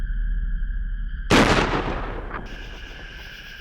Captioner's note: gunshot